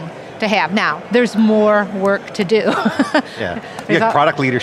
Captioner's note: laughs